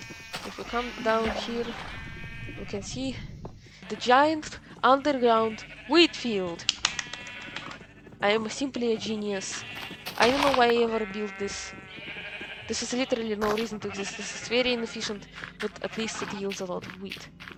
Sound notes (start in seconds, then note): 6.7 one-person applause; 9.6 sarcasm